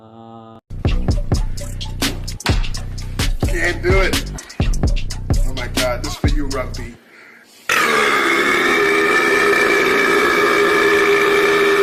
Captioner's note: the world record burp